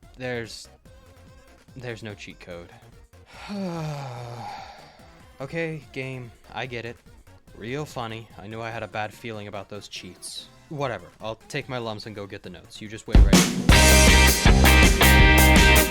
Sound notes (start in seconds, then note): 3.3 heavy sigh